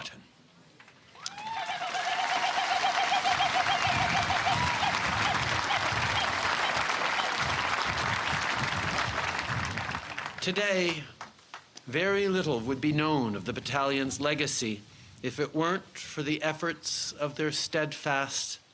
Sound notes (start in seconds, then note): 5.4 cheers and applause